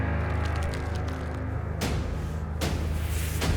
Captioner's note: crackling